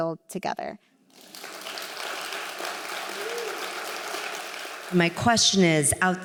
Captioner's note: applause